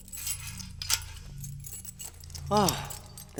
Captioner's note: chains clinking